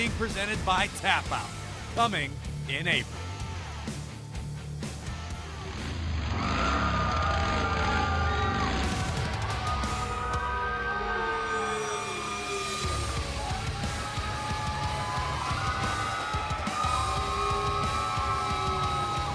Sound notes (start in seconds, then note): 6.1 cheers and applause; 7.3 engine revving